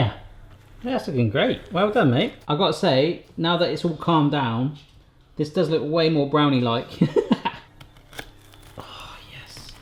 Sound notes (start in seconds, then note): 7.0 laughs; 7.2 crackling